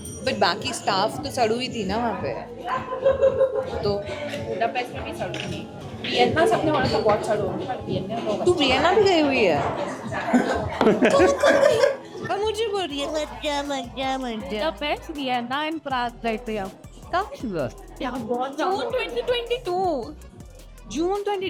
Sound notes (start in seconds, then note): 10.0 laughs